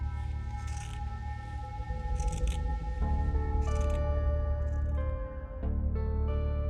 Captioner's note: cutting noises